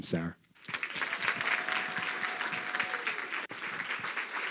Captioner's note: crowd clapping